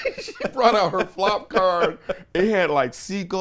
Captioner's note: laughs